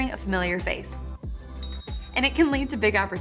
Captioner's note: effects twinkling